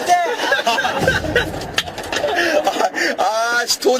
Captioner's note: cracking up